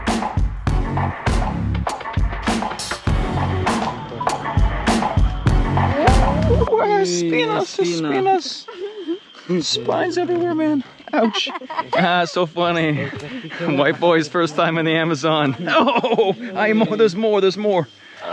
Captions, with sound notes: (speaking in foreign language) Spines everywhere, man. Ouch. (child laughing) Ah. So funny. White boy's first time in the Amazon. No! There's more. There's more.